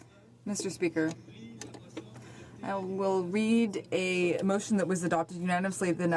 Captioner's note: speaking in french